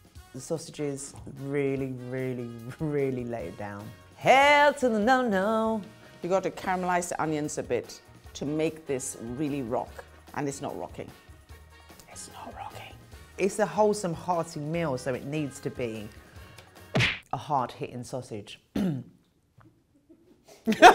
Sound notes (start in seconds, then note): 12.1 whispering; 16.9 thwacks; 18.7 coughs; 20.6 laughs loudly